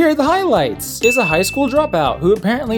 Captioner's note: ding